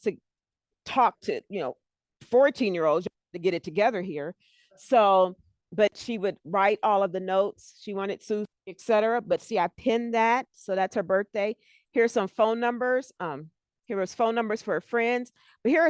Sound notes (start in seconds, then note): 8.1 breaking voice